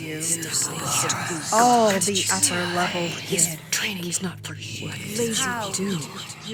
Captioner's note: disjointed cracking sounds, whispering voices; memory of voice, distorted, overlapping with other voices